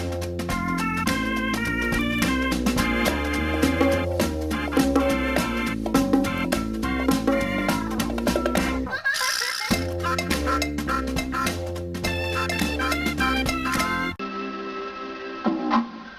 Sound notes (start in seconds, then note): 8.8 kid laughing